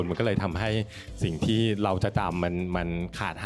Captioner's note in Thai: none